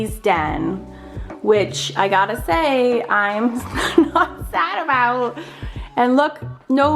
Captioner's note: laughs